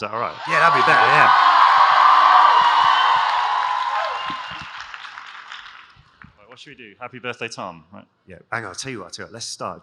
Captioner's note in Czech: Potlesk